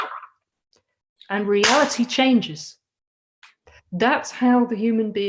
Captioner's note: clap!